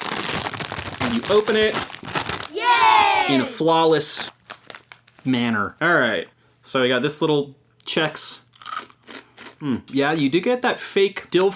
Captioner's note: chomp munch munch